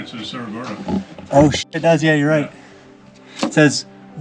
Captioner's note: beep